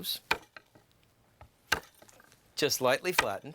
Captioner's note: knife bangs